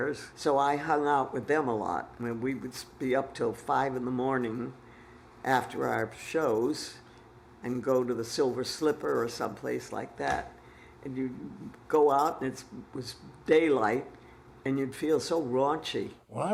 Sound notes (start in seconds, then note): none